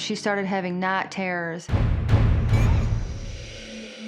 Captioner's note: girl squeals